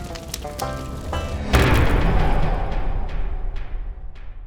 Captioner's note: impact